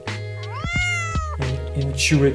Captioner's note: charlie meows